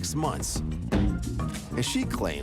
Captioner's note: ball banging